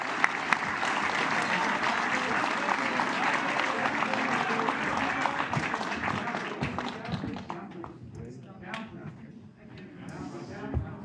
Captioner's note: applause